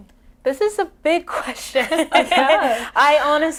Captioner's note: laughs